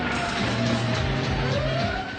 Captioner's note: sirens